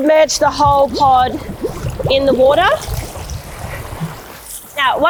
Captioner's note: water bubbling